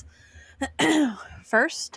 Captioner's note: clears throat